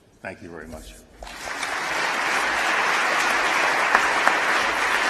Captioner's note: applause